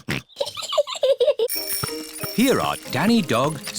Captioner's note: snorts; chuckles